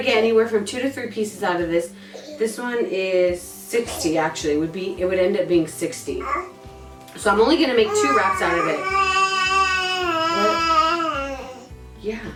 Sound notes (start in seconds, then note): 9.8 baby coos and baby talks